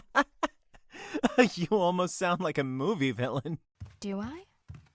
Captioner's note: laughs